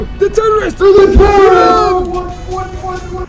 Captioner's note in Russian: Всё кричат одновременно